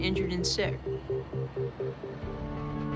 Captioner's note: sirens wailing